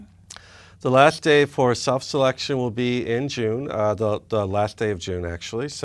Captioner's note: none